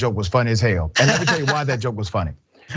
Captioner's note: laugh